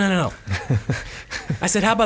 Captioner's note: laughing